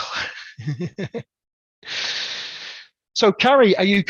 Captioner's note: laughs